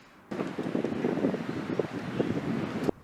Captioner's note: wind gushing